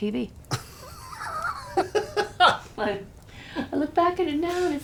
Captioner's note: man laughing